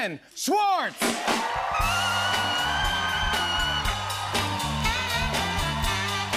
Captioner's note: cheers and applause